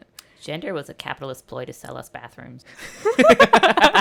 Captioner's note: laughter